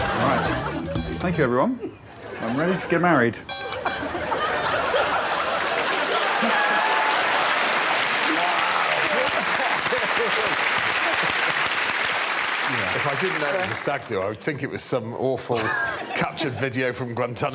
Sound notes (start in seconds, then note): 6.8 applause; 11.7 applause